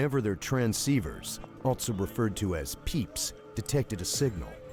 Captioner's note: voiceover